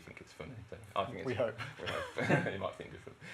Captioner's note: laughter